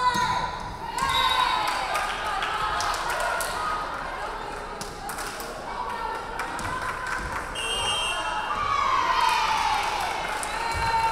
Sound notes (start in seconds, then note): 1.6 referee whistling; 1.6 crowd clapping; 7.5 referee whistling